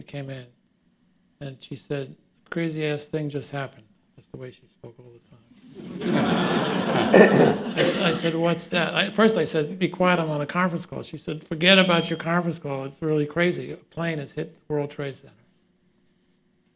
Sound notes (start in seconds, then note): 5.5 laughter